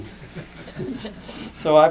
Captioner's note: laughter